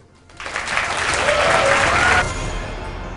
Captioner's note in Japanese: 拍手